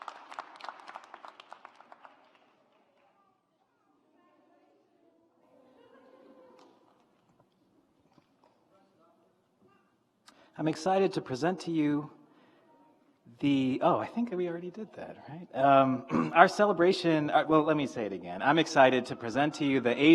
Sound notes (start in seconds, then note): 3.8 graduates chattering